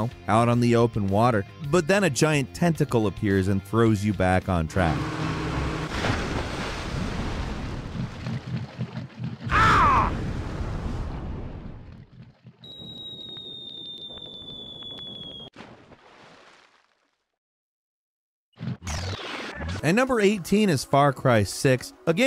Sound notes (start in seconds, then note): 5.6 splashing and crashing; 12.6 whistling; 12.7 splashing